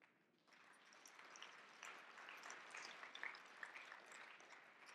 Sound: audience clapping

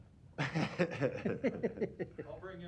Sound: laughter

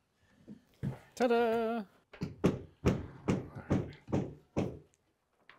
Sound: hammer thumping

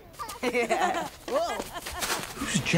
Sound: kid laughs

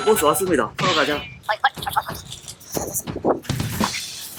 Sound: footsteps filled with joy

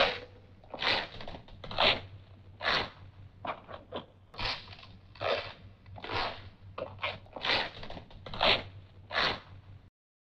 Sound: shoes squeaking

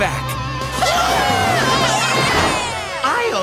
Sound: cheering

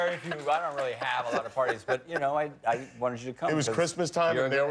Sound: laughter

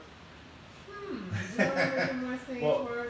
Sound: laughing

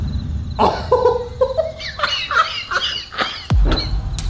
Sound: laughs

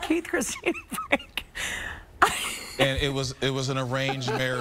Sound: laughter

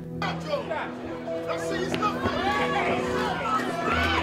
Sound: crowd shouting

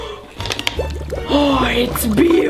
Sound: liquid bubbling; tablets clattering

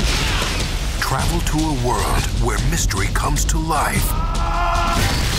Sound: voiceover

